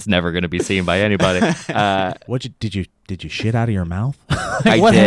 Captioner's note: laughs